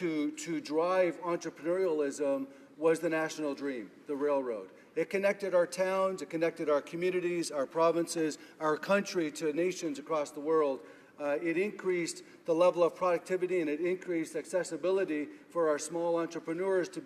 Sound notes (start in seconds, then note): none